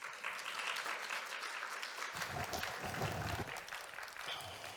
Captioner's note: applause